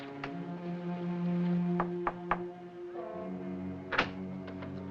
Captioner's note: knocking